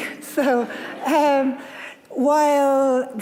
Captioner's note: audience laughing